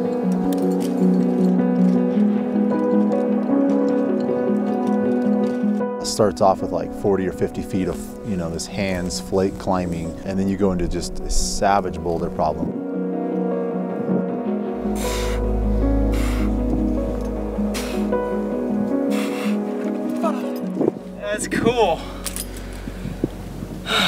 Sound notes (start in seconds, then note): 0.2 calm piano music continues; 13.6 calm piano music continues; 15.8 heavy breathing; 17.0 wind blowing; 23.8 exasperated sigh